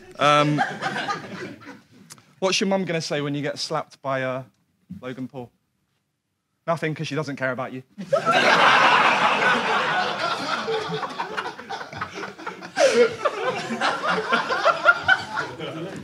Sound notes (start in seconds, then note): 0.3 audience laughs; 8.0 audience laughs; 12.5 Sidemen laugh